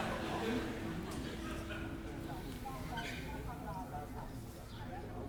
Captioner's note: music stops – indistinct chatter